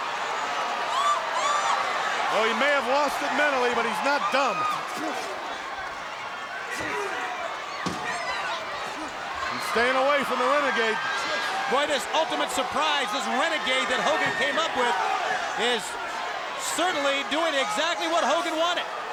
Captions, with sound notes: Well, he may have lost it mentally, but he's not dumb. (crowd cheering) (wrestlers grunting) (crowd cheering) He's staying away from the Renegade. Boy, this ultimate surprise, this Renegade that Hogan came up with is certainly doing exactly what Hogan wanted.